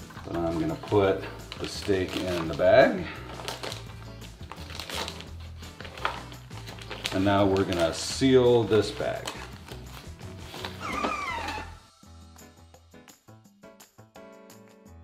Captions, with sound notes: I'm going to put the steak in the bag And now we're going to seal this bag. (FoodSaver whirring)